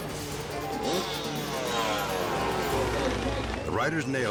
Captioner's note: engine growls